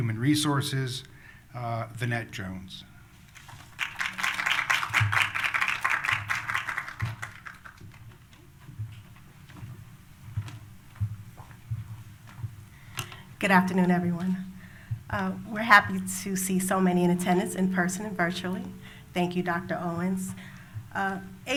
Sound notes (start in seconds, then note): 3.4 applause